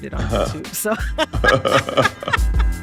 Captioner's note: laughter